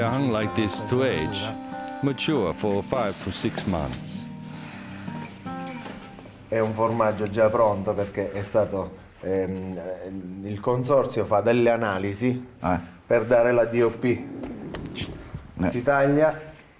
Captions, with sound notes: They are hung like this to age, mature for five to six months. (Speaks Italian)